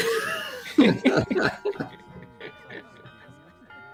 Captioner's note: laughter